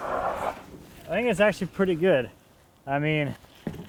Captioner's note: none